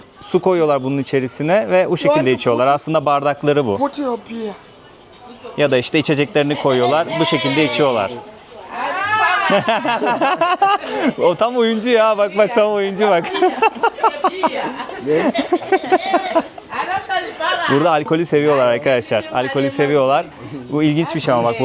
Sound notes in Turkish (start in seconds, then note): 9.2 kahkaha